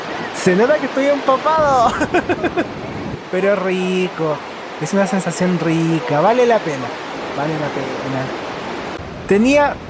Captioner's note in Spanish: risas